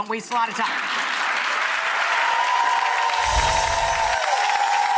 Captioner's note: audience applauding